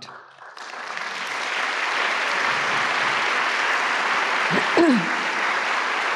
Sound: applause

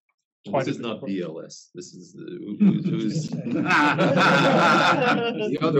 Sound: laugh

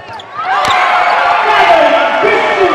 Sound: chatter; cheering and applause

